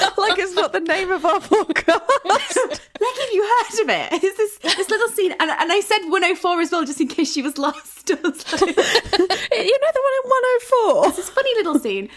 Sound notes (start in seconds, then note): 0.0 laughing; 8.4 laughing